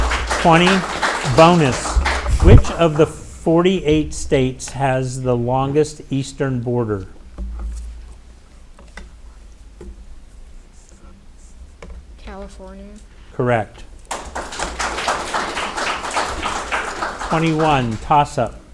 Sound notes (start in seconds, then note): 7.0 light clattering; 14.0 audience applauding